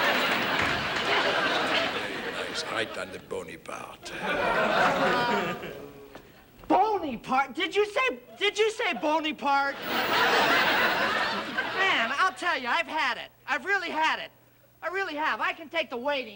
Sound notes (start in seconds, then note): 9.7 audience laughing